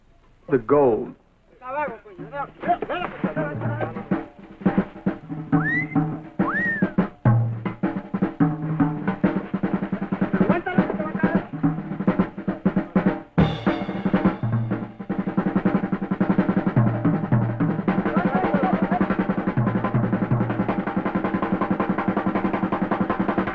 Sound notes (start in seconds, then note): 0.2 upbeat instrumental music; 1.5 men chattering; 6.3 Jack wolf whistles; 9.8 men chattering